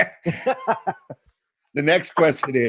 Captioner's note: laughs